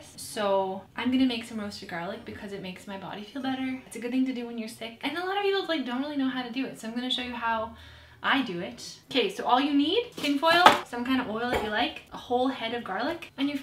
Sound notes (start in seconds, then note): 10.6 pack bangs